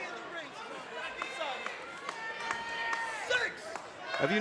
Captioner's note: crowd shouting